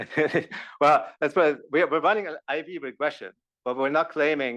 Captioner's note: laugh